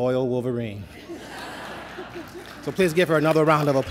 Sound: laughter

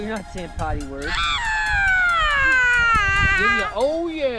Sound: yells

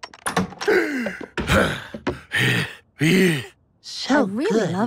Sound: heavy breathing

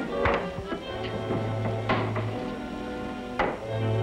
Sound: none

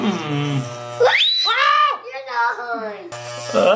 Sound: screams

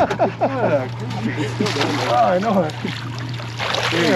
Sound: chuckling; fish splashing

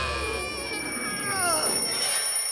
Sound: alarm rings

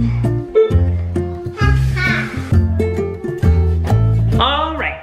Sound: laughs

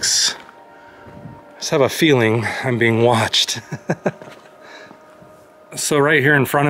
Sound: laughter

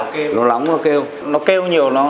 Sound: chatting

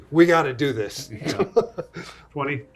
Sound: laughing

